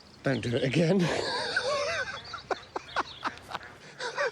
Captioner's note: John laughing